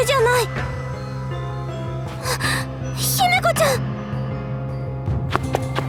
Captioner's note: gasp